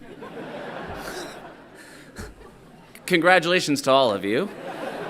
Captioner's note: everyone laughing